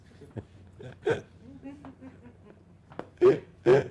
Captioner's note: laughing